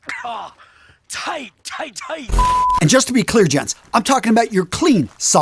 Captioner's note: sound effect